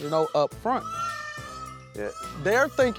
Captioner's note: peacocks squawking